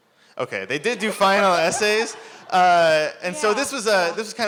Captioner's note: laughter